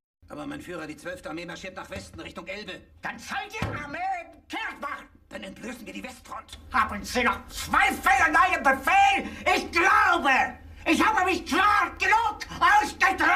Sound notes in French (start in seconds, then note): 0.2 s'exclamant dans un anglais simple